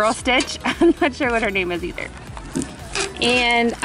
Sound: laughs

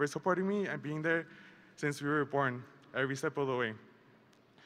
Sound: none

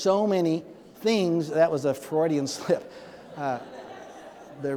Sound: audience laughing

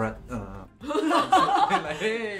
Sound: laughs

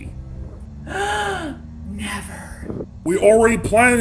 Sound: gasp

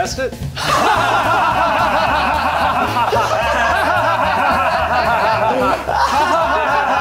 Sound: laughing

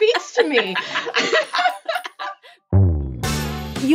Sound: laugh

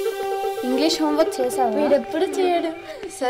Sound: children chattering

